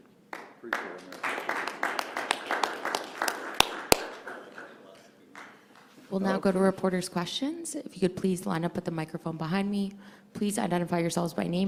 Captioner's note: applause